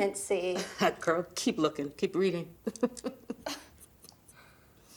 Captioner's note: laughs